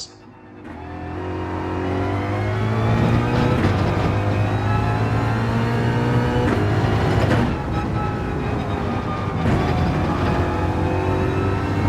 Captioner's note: engines revving, tyres grip, racing sounds